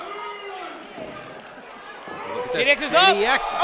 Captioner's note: crowd boos